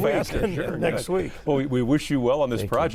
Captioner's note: all laughing